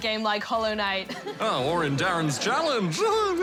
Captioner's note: chuckles